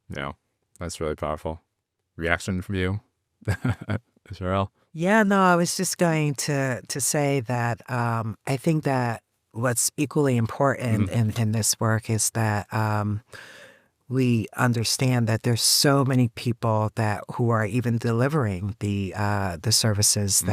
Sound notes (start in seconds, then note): 3.4 chuckles